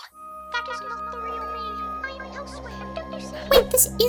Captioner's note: over intercom